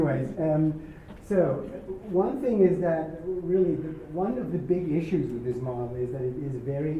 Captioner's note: laugh